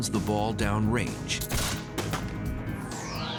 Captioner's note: gun shot